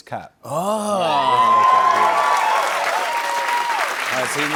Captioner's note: cheers and applause